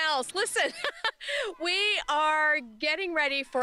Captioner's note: laughter